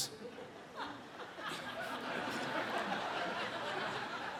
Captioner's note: audience laughs